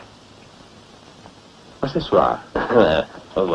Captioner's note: speaking Italian